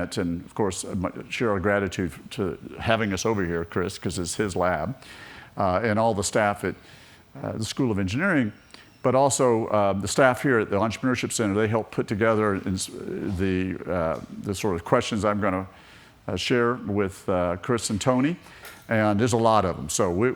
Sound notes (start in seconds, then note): none